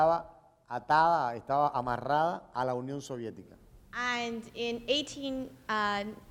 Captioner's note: speaking in Spanish